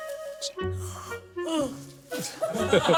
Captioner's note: yawning